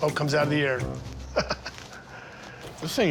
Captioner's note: laughs